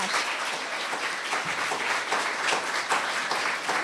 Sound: applause

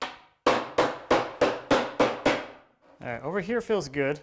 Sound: hammer banging

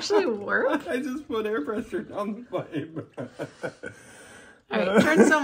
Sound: laughs

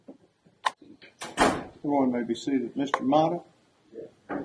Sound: door Shuts

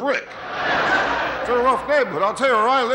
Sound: audience laughing

